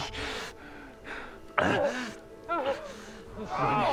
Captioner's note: moaning